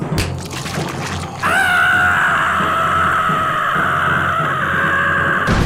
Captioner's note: scream